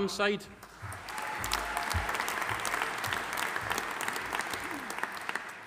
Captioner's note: audience applauding